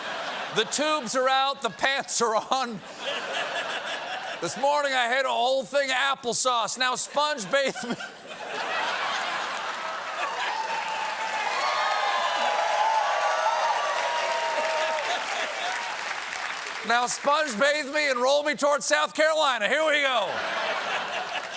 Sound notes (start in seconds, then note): 13.7 cheers and applause; 14.7 laughter; 20.2 laughter